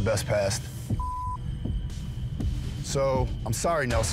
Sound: beep

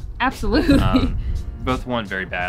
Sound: laughs

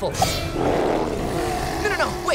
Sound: growling

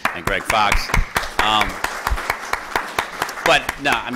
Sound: applause

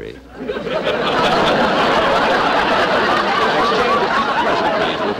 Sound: audience Laughing

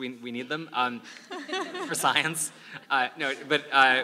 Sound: laugh

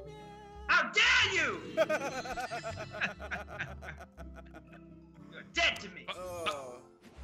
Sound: laugh

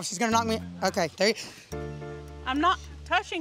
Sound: gasp

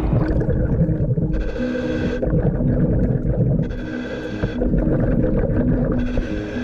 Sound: water bubbling; scuba breathing

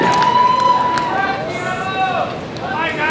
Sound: voiceover

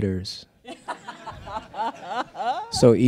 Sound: laughs

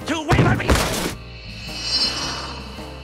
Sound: thud

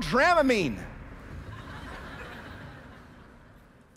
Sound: laughter

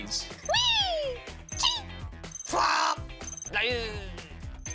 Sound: makes funny noises

